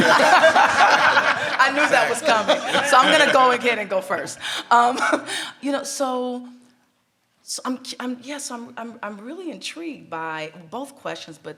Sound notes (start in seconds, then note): 0.0 everyone laughs; 4.7 laughs